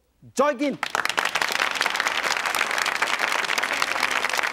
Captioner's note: applause